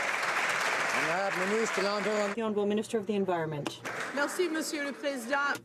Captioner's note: some Applause